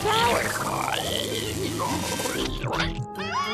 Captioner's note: croaking